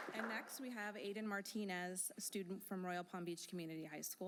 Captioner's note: applause